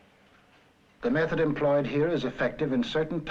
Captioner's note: voiceover